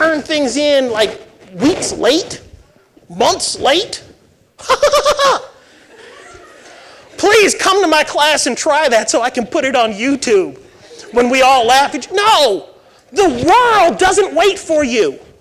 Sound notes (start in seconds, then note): 4.6 laughing